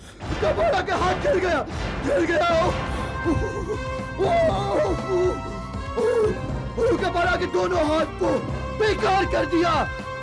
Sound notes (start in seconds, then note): 3.1 groans